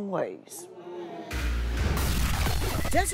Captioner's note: crowd moaning